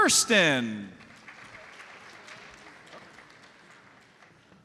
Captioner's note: audience applauds